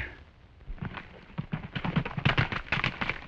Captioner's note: hooves clattering